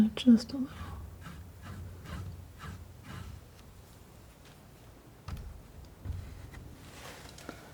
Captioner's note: scratching